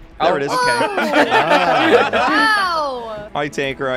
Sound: everyone laughs

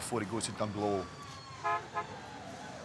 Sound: horn honking

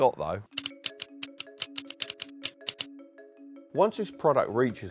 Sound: keys clacking

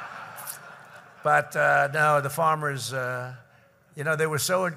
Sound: laughter

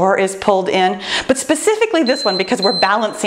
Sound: timer beeps

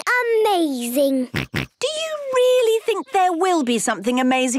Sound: snorts

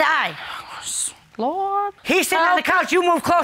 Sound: sighs

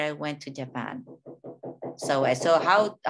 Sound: neighbor hammering

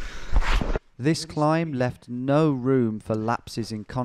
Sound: voiceover

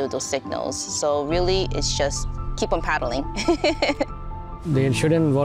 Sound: laughs

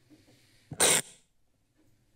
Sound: screeching sound

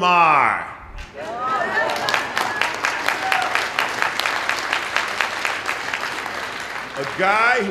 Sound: applause

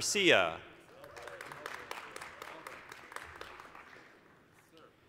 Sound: applause

